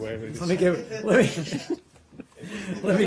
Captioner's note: laughter